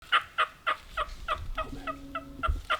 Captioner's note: turkey clucking